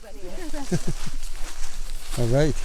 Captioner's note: group laughs